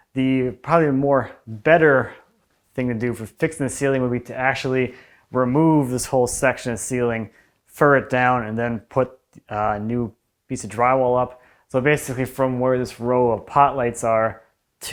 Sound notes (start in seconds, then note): none